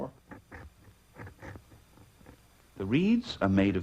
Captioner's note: scraping sound